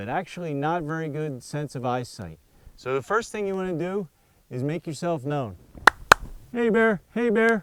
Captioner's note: claps twice